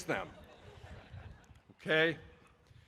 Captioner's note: audience laughing